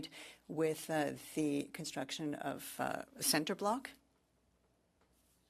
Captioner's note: speaking French